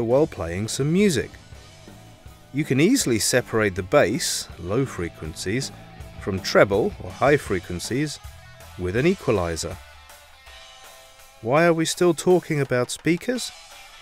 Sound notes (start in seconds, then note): 4.5 low frequencies; 7.5 high frequencies